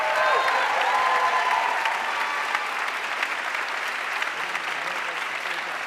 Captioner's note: audience cheering and applauding